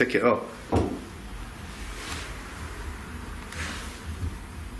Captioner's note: thumping